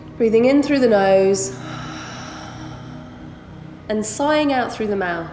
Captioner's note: heavy breathing